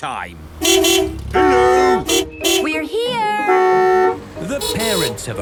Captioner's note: beeping